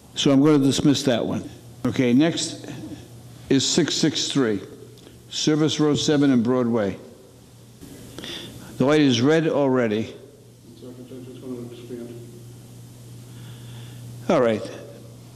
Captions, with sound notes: So I'm gonna dismiss that one. Okay, next, is 663, Service Road 7 and Broadway. The light is red already. (courtroom chattering) All right.